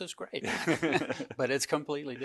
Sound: both laugh loudly

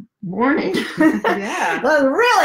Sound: laughs

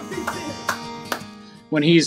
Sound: clapping

